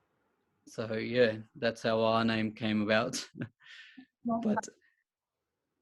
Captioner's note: chuckles